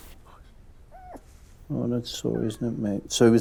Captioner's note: Ted whimpers